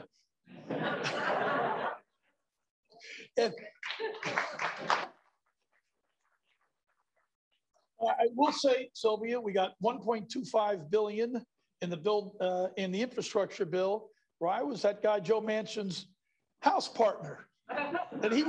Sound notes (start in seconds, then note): 0.5 laughter; 3.8 applause